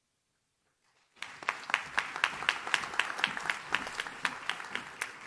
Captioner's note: audience claps